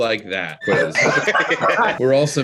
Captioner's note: group laughs